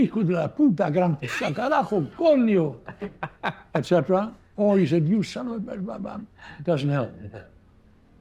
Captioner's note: foreign language